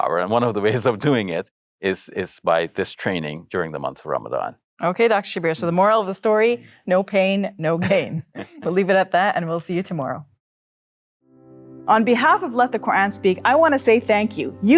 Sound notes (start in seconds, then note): 7.8 laughs